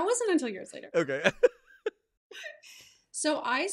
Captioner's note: laughs; both laughing